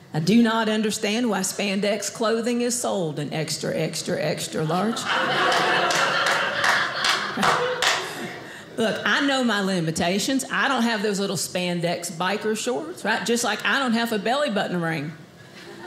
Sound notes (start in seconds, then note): 4.8 audience laughing